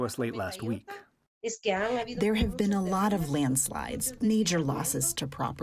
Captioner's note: through translator